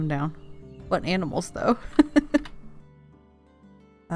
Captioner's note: laughs